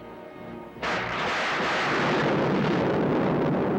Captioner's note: thunder crashes